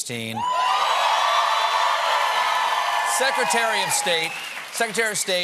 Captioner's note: cheers and applause